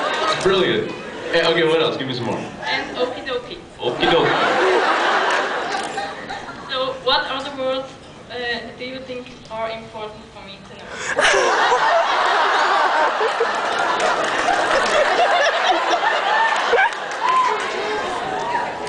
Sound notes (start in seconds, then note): 0.0 laughs; 4.0 laughs; 11.0 laughs